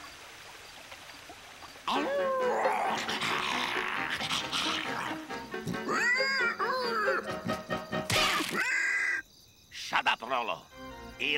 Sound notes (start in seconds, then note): 1.8 werewolf howling; 5.5 rolo grunting